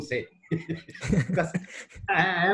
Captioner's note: both laughing